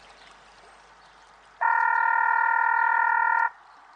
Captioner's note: telephone ringing